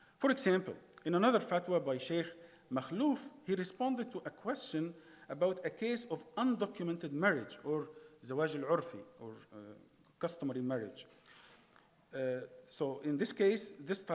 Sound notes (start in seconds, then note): 8.1 speaking in foreign language